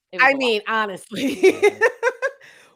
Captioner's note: laughs